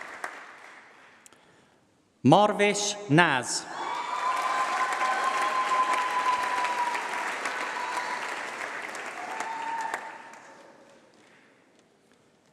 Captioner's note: applause